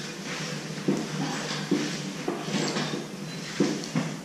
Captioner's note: handling sounds